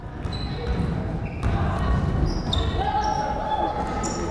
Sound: crowd chattering

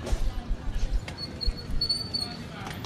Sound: none

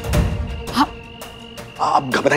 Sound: gasps

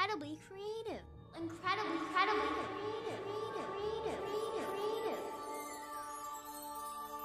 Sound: echoing

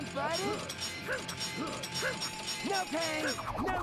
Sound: grunting

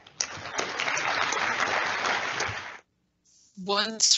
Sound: applause

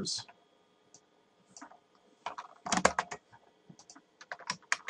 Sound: keyboard and mouse clicks

